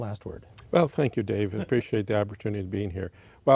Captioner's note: chuckles